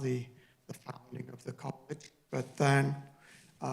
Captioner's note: distorted audio